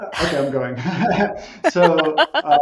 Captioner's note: laughter